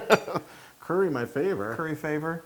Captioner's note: laugh